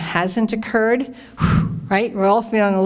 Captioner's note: deeply exhales